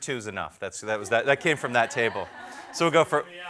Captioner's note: crowd laughs